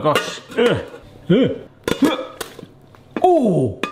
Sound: grunting

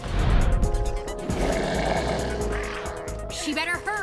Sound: growling

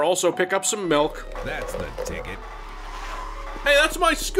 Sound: scooter starting

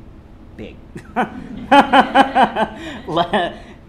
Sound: laughs

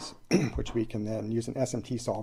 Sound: clears throat

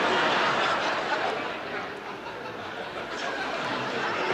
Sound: audience laughs

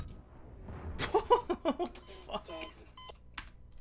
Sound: laughing

